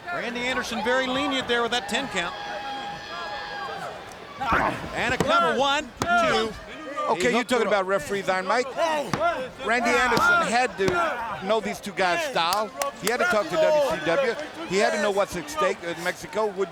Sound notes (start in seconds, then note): 6.0 hand pounding